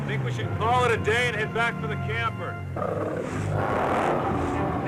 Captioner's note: growling